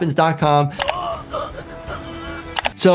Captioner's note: man grunts